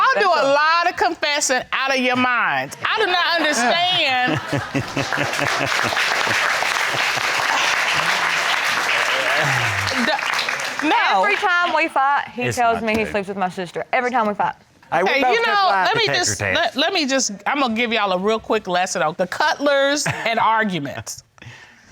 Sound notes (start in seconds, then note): 3.7 chuckling; 4.2 crowd applaudes